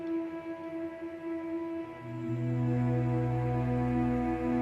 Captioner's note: none